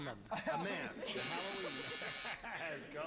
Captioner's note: buzzer